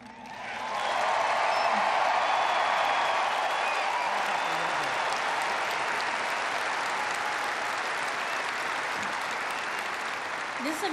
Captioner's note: applause